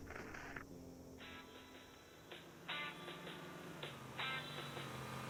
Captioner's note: Warthog Revving